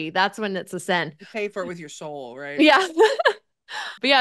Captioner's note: laughs